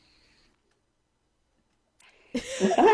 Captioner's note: laughter